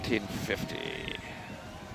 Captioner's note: cheering